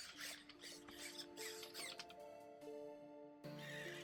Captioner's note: both robots beep; mechanical noises